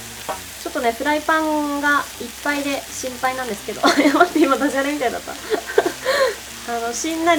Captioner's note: laughs